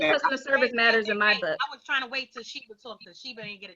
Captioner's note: woman's Voice